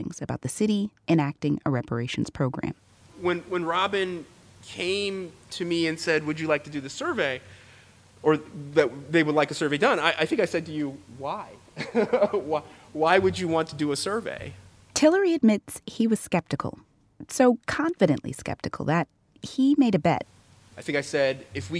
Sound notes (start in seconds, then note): 11.8 laughs